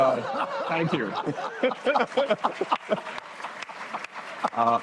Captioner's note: laughter, applause